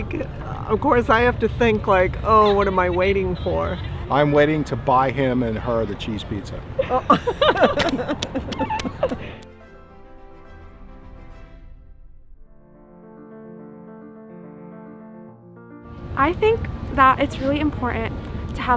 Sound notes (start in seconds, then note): 6.7 people laughing; 10.1 calm instrumental music